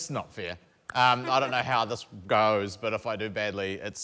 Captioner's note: clears throat